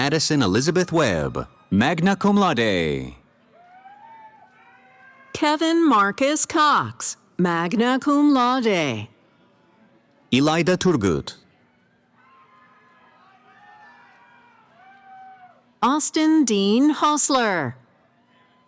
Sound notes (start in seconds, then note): 3.4 cheering; 11.6 cheering; 18.0 cheering